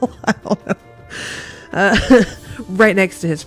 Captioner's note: laughs